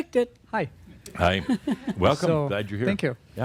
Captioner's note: she chuckles